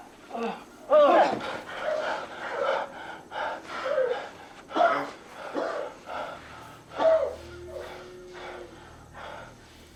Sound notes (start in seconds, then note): 1.8 panting; 4.7 coughing